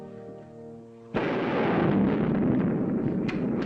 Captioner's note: loud thunderclap